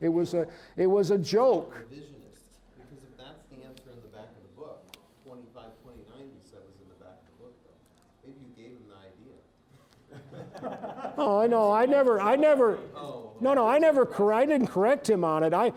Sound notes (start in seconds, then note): 10.1 audience laughing